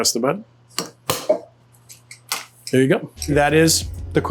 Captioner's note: bottle popping